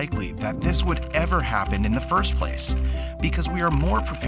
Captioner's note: crank rattling